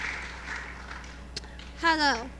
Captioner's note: applause